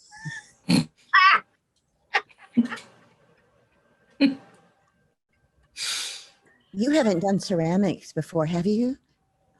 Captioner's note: laughter